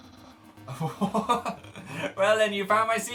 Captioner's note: laughing